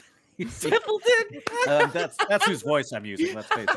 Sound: laughs

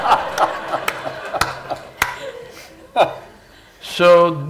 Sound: laughter/Applause

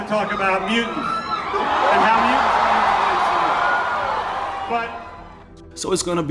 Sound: crowd Cheers

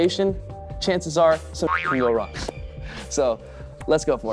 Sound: boing

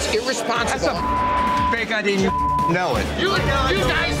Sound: beeping

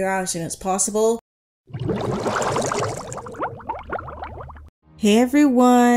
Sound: bubbles rising sound effect

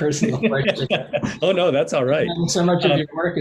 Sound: laughs

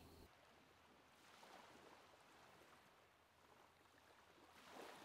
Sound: water laps

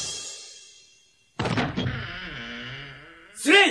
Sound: SFX: door creaks open

